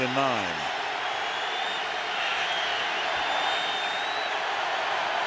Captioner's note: crowd cheering